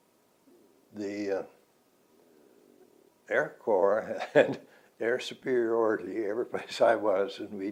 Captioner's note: laughs